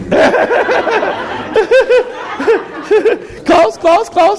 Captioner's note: laughter